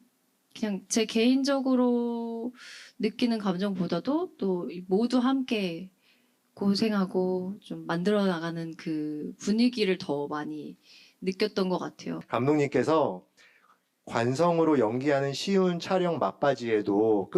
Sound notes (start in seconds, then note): none